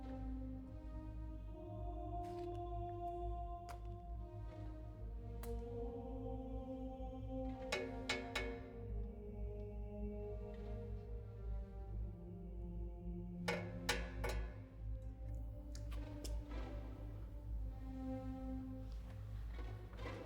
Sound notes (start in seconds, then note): 0.3 holy music; 7.0 clanking